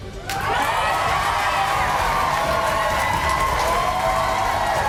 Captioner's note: audience clapping